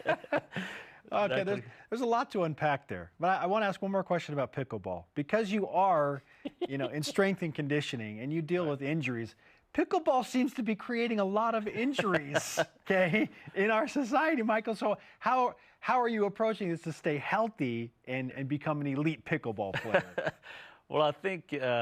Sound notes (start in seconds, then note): 4.7 laughter